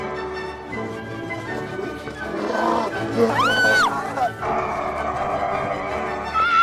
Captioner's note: backwards voices; laughs